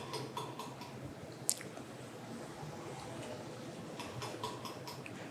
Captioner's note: tapping